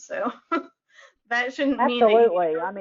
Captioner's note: chuckles